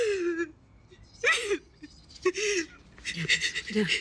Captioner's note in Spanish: Sollozos